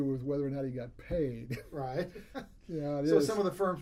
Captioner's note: laughs